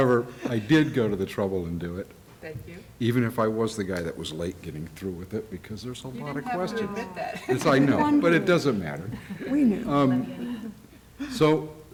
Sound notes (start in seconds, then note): 3.6 laughter